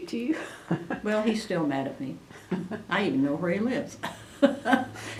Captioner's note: laughs; laughter